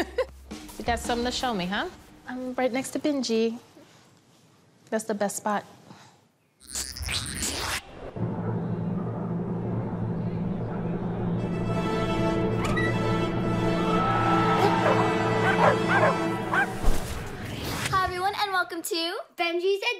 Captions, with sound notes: [laughs] You got something to show me, huh? I'm right next to Benji. That's the best spot. [operatic music playing] [dogs barking] Hi, everyone, and welcome to...